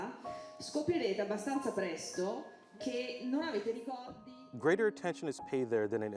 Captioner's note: speaking in foreign language